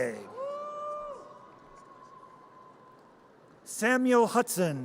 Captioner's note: audience cheers